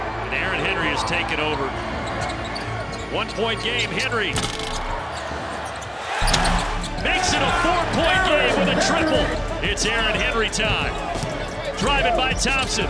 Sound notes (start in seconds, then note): 4.5 rim rattling; 6.1 crowd cheering